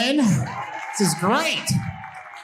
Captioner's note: audience cheering and applauding